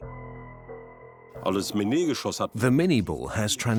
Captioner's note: speaks German